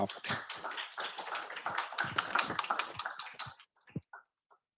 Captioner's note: audience clapping